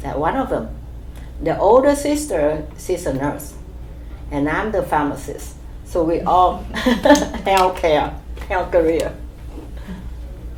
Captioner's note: laugh